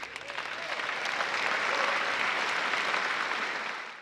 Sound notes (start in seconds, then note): 0.0 applause